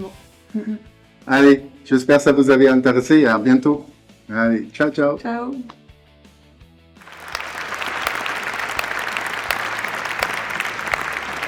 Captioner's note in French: applaudissements